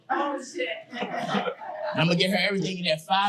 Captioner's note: audience laughing